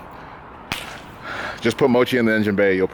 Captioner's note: clap